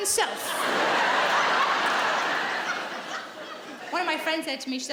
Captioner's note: audience laughing